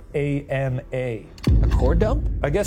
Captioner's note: slide projector clicks